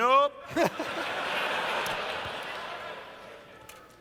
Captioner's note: laughter